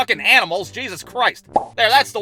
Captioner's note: pop!